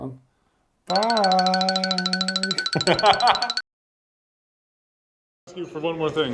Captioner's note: laughing